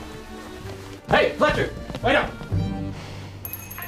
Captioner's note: running footsteps; doorbell jingles, drucinda sighs